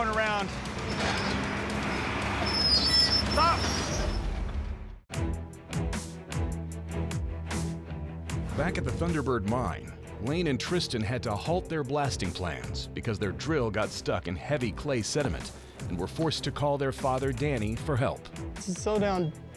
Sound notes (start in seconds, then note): 0.8 squealing sound